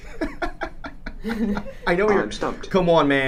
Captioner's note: laughing